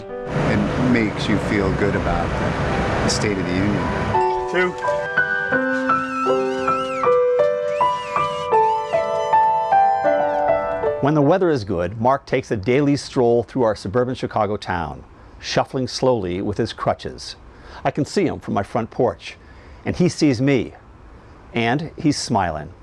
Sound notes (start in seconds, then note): 4.8 soft piano music; 5.6 people whistling